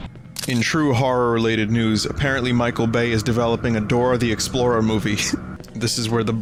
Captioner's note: laughs